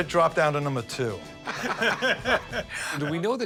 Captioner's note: laughter